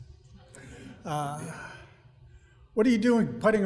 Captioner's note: audience laughing